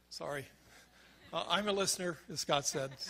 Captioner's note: crowd laughs